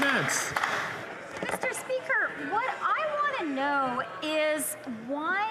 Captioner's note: some Applause